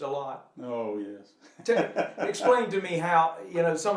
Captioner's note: laughing